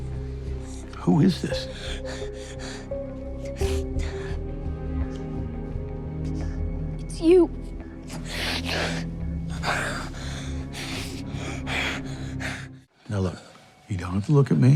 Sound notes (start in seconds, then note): 3.3 sniffles; 8.0 crying